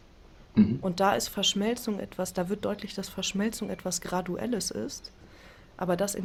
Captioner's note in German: räuspern